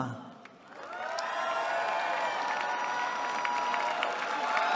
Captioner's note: cheering